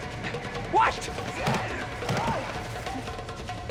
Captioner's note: Mueller grunts